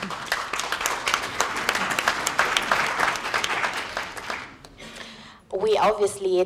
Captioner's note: applause